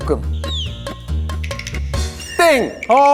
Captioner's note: excited